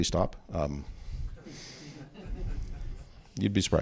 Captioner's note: chuckles